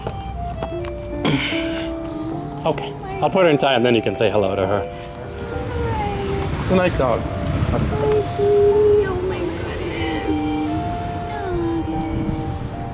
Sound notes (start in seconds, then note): 5.3 baby talk